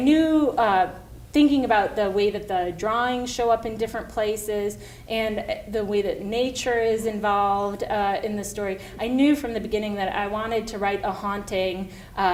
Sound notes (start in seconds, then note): none